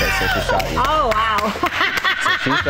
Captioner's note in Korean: 웃음